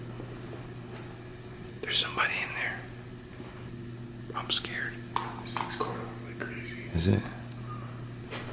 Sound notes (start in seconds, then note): 2.0 whispers